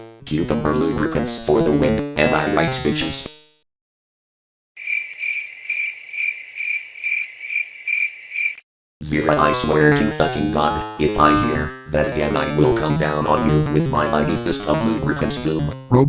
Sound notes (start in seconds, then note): 4.8 crickets